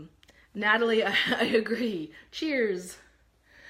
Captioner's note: laughs